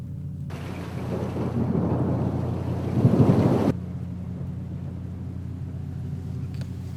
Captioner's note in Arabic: موسيقى تلوح في الأفق; طقطقة المطر; دوي الرعد